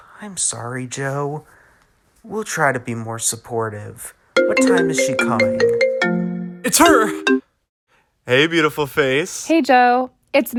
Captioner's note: phone rings